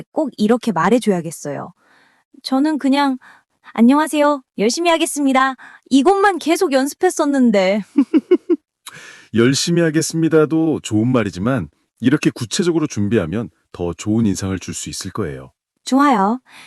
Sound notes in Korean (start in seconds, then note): 7.9 웃음